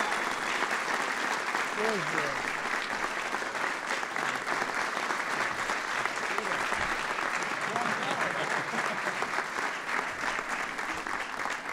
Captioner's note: applause